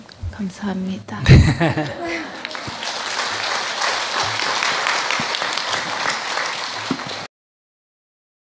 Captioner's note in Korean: 스님 웃음 / 청중 박수